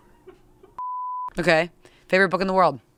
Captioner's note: beep